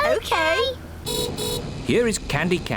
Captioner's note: horn beeps